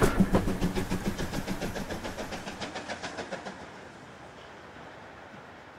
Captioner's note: train passes